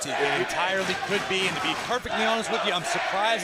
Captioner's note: crowd chatter